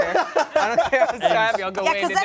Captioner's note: everyone laughs